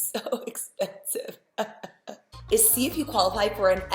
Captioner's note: pained laughter